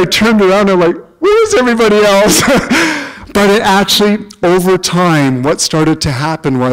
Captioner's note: chuckle